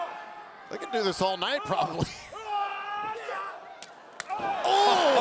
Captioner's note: laughs